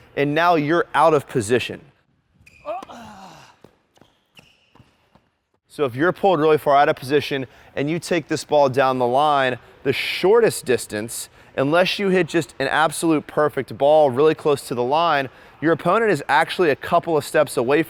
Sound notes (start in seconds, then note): 2.7 sighs